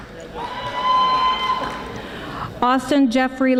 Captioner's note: audience applauding